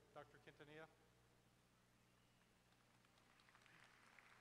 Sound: applause

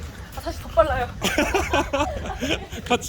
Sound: haha

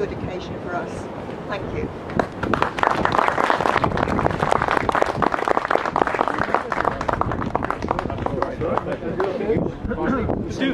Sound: applause

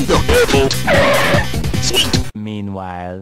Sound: car pulls up

